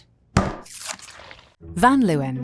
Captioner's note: tub thudding